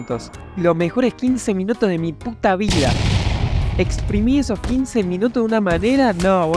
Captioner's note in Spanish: explosion